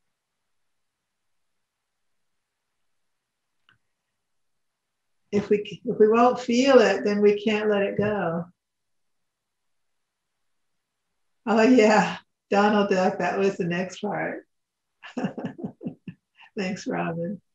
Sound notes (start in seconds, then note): 15.0 laughs